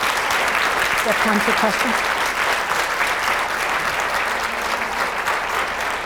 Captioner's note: audience applauds; audience applauds